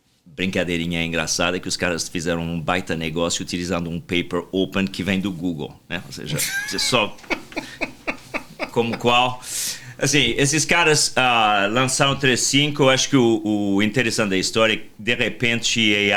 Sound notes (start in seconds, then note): 6.2 laughter